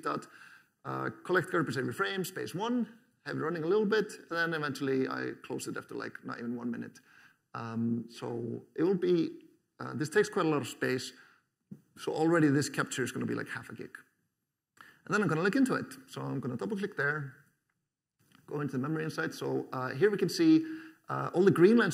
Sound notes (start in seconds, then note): none